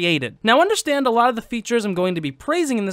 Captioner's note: none